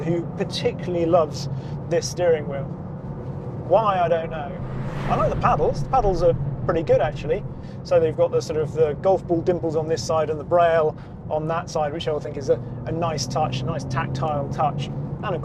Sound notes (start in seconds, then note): 3.1 vehicle revs